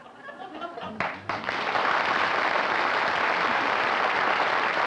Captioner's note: applause